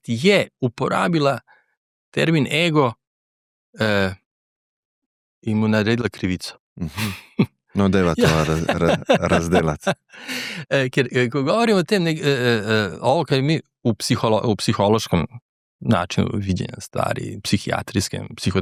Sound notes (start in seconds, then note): 7.8 laughs